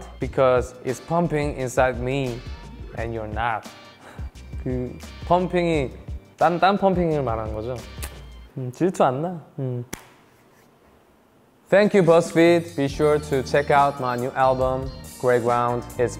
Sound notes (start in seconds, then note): 4.8 speaking in Korean